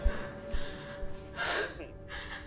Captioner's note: Casey breathing heavily